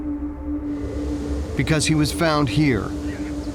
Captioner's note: winds blowing